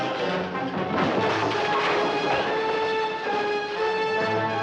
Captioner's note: loud crashing